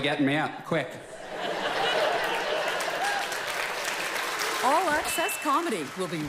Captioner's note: audience applause